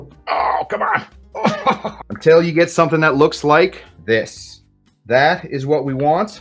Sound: laughs

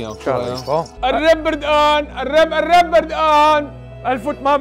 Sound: shouting

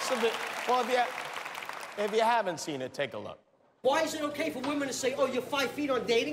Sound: applause

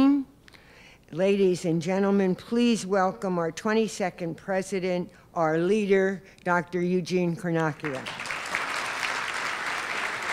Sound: applause

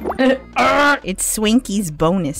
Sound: kremling grunt

